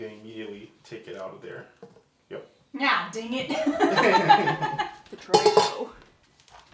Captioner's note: both laugh